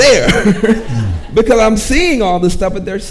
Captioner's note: laughs